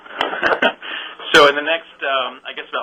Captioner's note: laughs